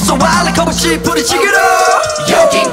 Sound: howl

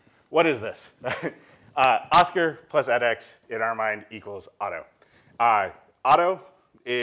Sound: laugh

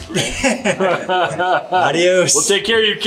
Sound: multiple speakers laugh

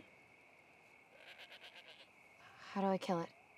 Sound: goat bleats

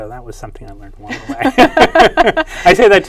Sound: laughs

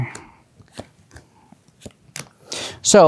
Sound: cards slapping

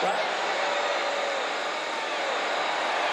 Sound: cheers and applause

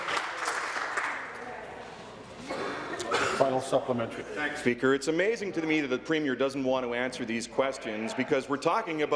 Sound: applause

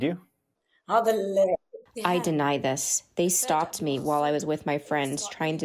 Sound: through translator

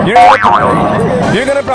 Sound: boinging sound

